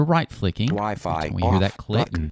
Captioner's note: electronic Voice